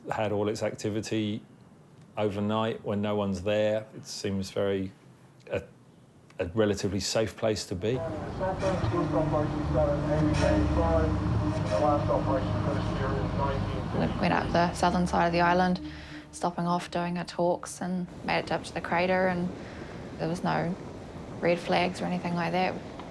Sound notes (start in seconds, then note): 8.3 tour guide chatters; 10.2 ominous music